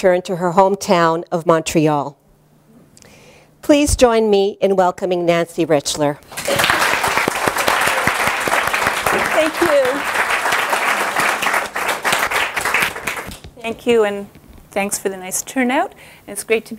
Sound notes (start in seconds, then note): 6.3 applause